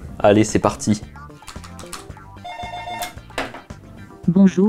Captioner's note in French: bruits de clavier; sonnerie de téléphone